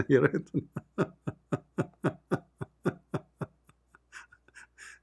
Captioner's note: Ketawa